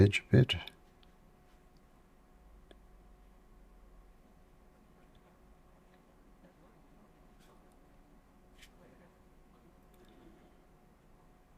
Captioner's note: silence